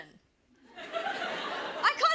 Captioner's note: laughter